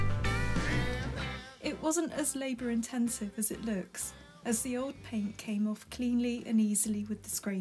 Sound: voiceover

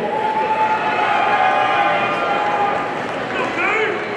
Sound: audience cheering

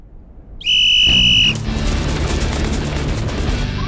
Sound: whistle

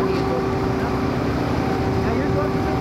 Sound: none

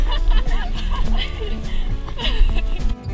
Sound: laughing

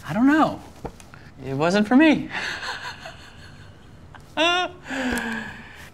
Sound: laughing

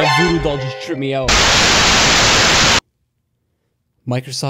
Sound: loud static

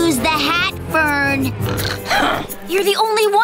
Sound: huffing

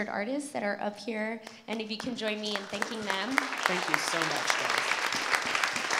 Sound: applause

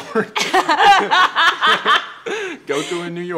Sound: laughter

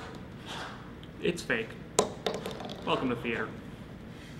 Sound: foam bouncy noises

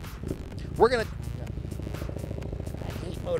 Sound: motorcycle engine

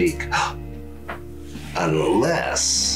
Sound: gasps

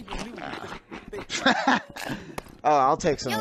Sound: cackle

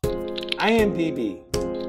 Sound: typing

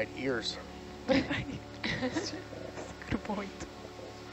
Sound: divers chuckle

